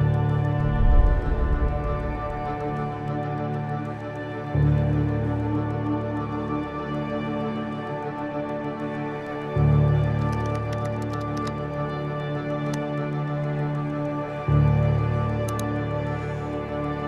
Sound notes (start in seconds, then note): 0.0 dramatic music continues; 10.2 keyboard clicking; 15.2 mouse click